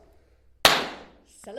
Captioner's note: party popper noise